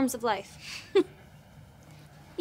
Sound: laughing

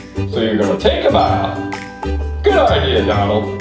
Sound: voiceover

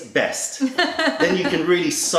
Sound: laughter

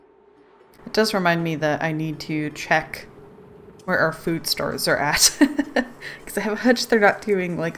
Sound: laughs

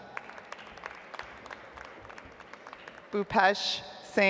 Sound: audience applauds

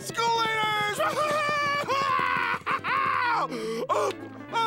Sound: laughing

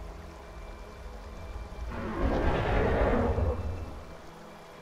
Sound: dinosaur roar

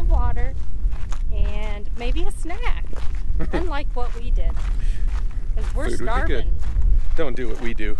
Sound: snicker

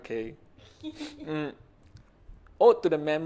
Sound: laughs

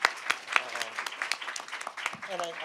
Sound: applause

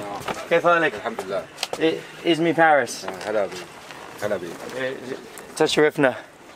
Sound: speaking In Arabic

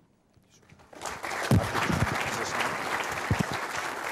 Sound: applause

